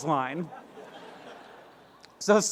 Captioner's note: laughter